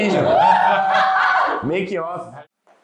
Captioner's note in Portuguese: Risos